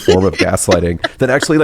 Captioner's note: laughs